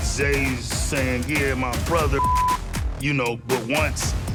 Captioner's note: beep